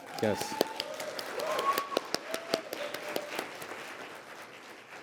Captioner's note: applause